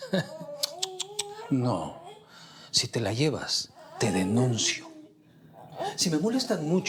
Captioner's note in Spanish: Risas